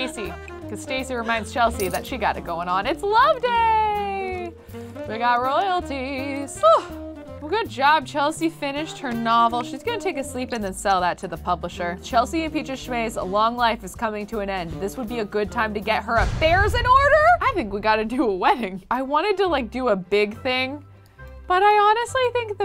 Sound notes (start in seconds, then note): 6.6 sighs